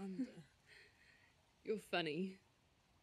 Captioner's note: faint laughter from bella